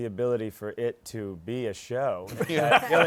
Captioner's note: laughter